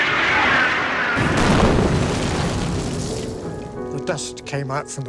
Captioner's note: jet explodes